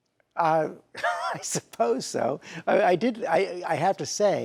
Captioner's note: host laughs